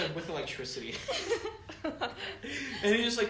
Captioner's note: group laughter; laughs